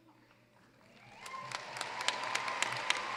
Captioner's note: applause